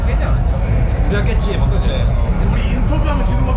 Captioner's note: BuZz